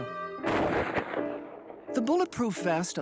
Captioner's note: gunshot